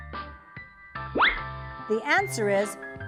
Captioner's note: whistle!